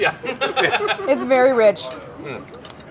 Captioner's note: all laughing